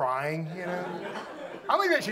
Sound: audience laughs

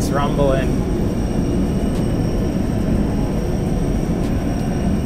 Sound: engine humming

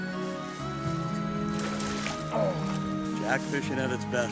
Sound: splashing

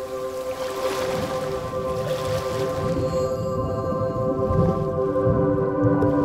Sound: gentle music; water splashing

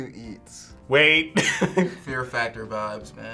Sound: laughs

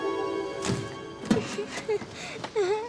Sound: crying

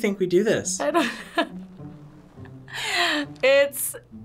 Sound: laughs

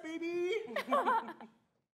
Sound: chuckling

